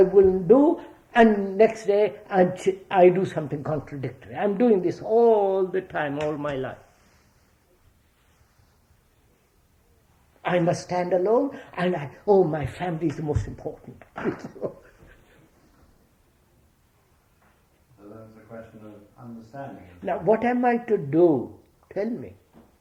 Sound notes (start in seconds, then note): 13.8 laughs